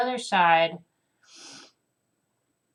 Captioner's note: nose inhale